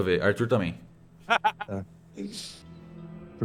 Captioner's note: laughs